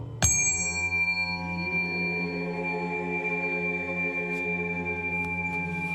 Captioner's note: high-pitched Ding; 高音叮